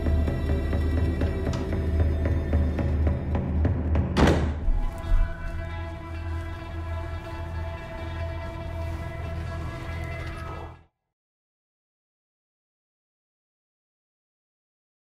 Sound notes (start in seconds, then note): 4.1 door slams; 4.8 suspenseful music playing